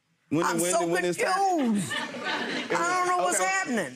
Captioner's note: audience laughing